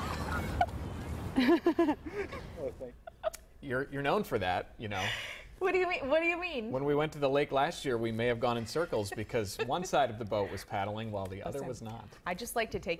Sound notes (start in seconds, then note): 8.6 laughter